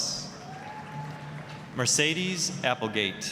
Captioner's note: applause, cheering